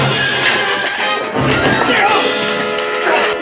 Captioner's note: yelps